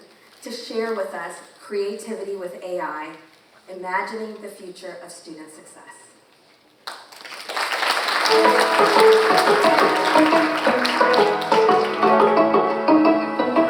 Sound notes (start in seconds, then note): 6.4 cheerful music; 6.8 audience applauding